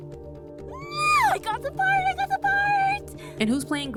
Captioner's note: screams